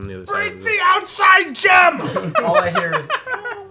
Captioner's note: shouting